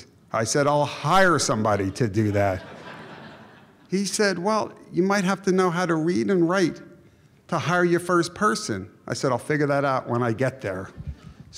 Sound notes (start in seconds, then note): 1.8 audience Laughs